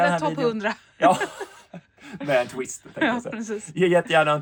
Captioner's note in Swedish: skratt